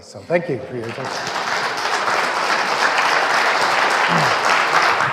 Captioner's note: audience clapping